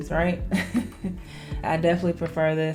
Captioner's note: laughs